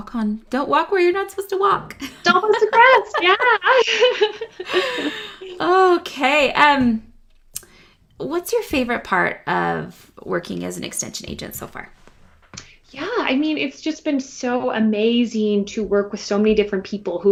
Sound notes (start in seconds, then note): 4.0 both laugh